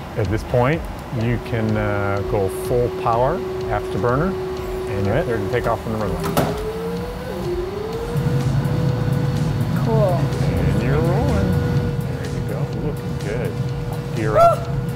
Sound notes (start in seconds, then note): 8.2 airplane engines droning; 14.0 high-pitched squealing